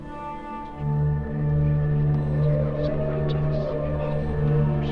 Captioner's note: demonic whispers